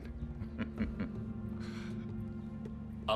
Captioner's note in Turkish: Gülme sesi